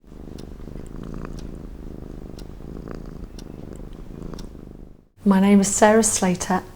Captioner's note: cat purring